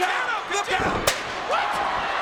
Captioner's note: audience cheers; chairs clank